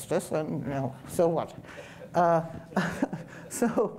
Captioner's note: audience member chuckling